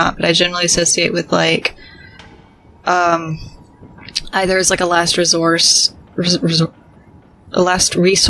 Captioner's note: stumbles on word a bit